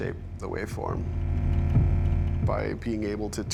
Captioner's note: monotone